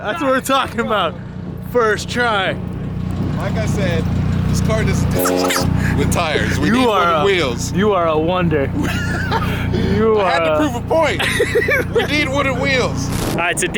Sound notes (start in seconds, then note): 4.8 fast forward sound; 8.7 laughs